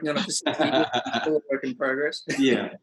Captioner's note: both laugh